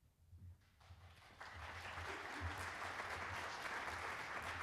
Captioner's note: audience applauding